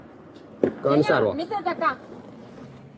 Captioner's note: speaking in a foreign language